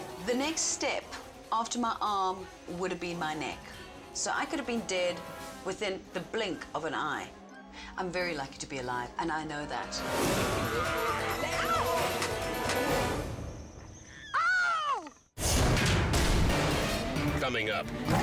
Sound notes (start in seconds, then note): 10.4 Sabika snarls; 12.3 hand slapping